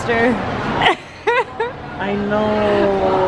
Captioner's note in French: des rires